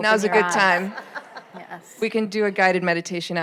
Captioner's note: audience laughing